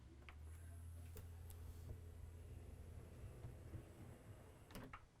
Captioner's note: door whirring